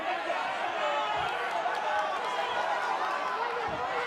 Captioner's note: cheering